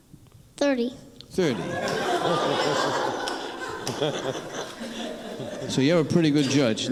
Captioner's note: crowd laughing